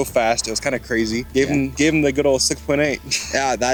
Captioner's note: chuckles